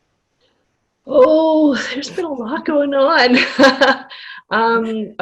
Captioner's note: laughter